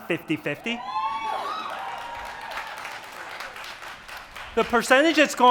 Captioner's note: applause